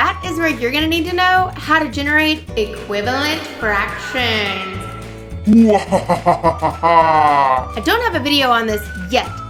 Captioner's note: evil Laugh